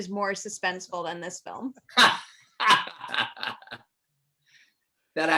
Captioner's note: laughing